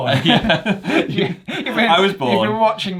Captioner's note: both laugh